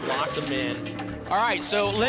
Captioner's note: lock sound